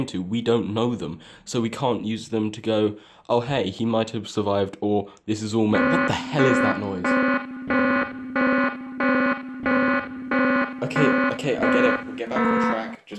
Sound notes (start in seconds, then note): 7.8 TOO-LONG-A-TANGENT ALARM blares